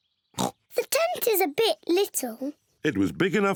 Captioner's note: oinks